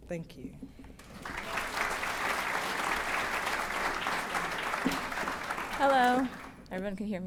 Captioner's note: applause